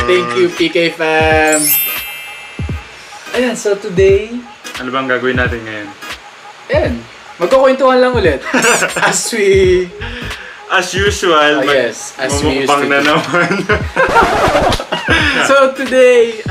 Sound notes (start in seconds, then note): 8.4 laughs